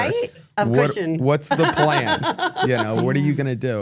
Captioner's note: laughing